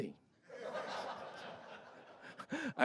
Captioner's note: laughter